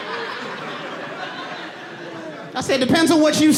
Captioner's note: audience laughing